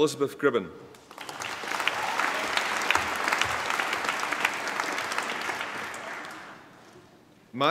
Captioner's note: applause